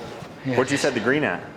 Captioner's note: whispering